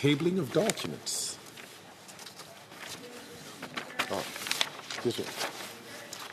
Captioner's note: speaking French